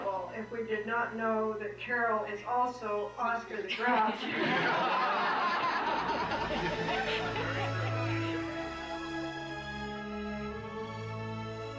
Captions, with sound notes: if we did not know that Caroll is also Oscar the Grouch. (ALL LAUGHING)